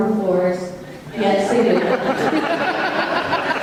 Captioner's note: audience laughter